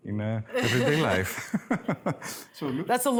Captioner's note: laughs